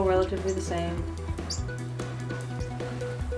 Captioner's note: chirp